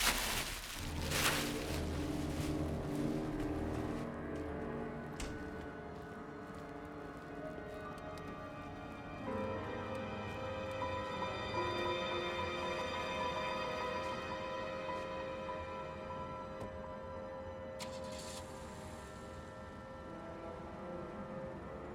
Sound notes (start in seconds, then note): 0.0 bag rustling; 17.8 car starts